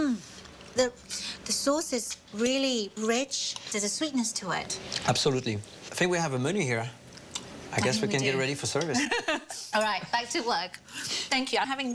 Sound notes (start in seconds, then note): 8.1 laughs; 8.9 chuckles